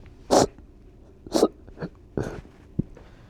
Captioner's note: sniffing